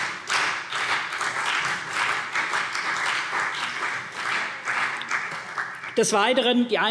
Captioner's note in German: Beifall CDU und BÜNDNIS 90/DIE GRÜNEN